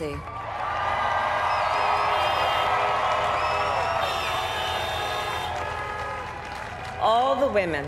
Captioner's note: cheers